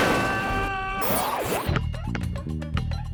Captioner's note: fridge crashing; man yelling; logo whooshes; funky music